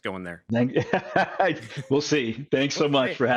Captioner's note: laughs